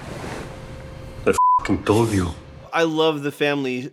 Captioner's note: beeping